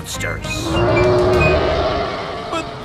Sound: roaring

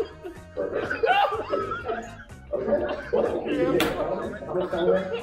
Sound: murmurs

